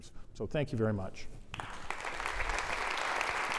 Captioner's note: applause